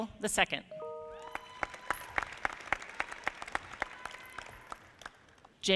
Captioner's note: audience clapping